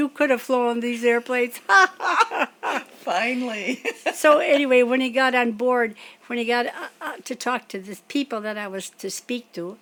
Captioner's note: laughs